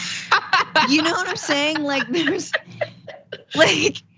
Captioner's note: laugh